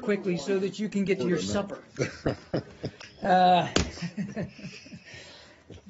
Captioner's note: laughter